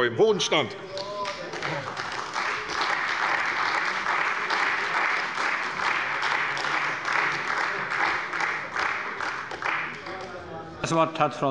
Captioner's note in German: Beifall bei der CDU